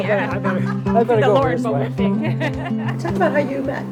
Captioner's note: both laughing